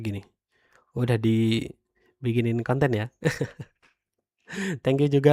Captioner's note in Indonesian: tertawa